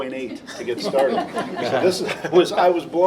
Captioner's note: laughter